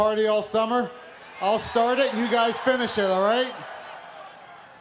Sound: cheers and applause

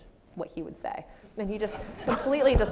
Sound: audience laughs

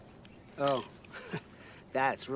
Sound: laughs

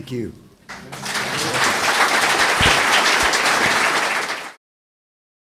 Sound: crowd applauds

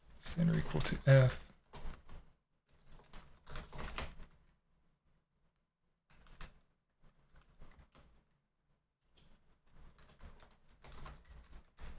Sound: typing

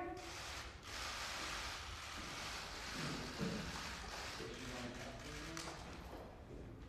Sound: camera shutters

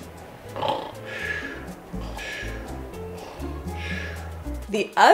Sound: snores

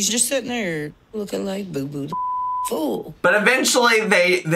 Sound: beep

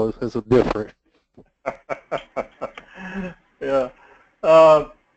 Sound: laugh

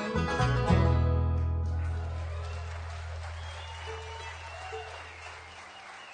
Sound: applause, cheering

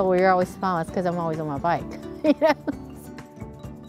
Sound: laughs

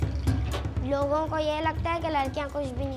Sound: speaking urdu

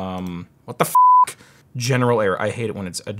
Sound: beep

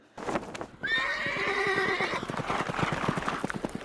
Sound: horse neighing

